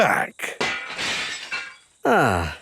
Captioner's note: glass shatters